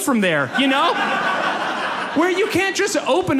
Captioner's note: audience laughs